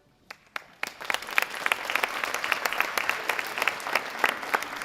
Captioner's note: audience applauding